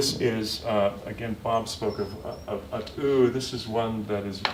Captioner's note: non-english speech